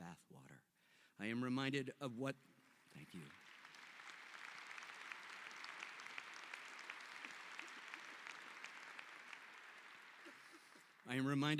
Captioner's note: applause